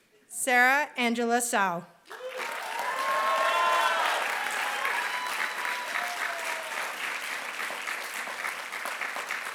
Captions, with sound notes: Sarah Angela Cao. [APPLAUSE]